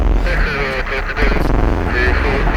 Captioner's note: speaking into walkie talkie